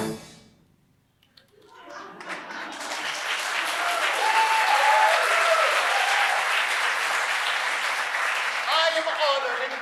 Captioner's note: applause